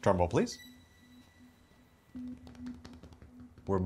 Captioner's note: drumming hands